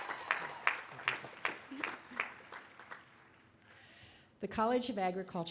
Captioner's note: applause